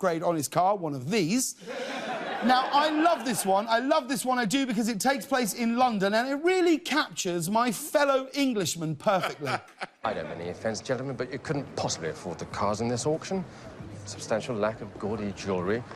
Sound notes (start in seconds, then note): 1.7 laughter